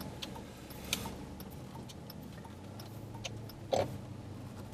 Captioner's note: car signal clicking